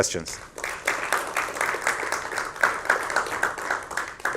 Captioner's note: applause